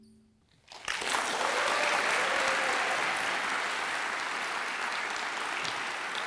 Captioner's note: audience applauds and cheers